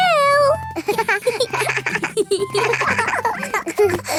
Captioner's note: snorts; both laughing